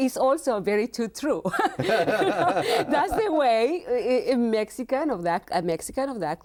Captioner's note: both laughing